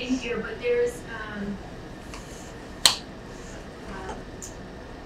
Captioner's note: speaking away from mic